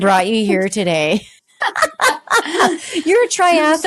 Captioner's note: laughing